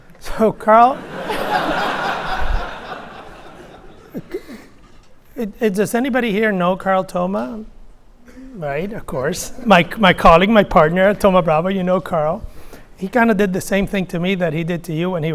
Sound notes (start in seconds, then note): 1.0 laughs